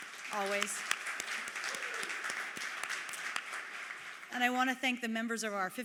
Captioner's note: applause